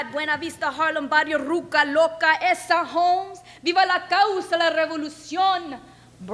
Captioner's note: speaks in foreign language